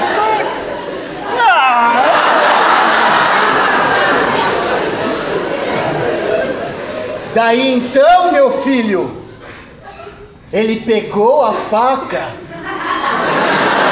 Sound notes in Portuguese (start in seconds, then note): 1.3 frustrado